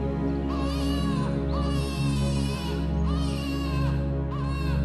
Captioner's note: baby crying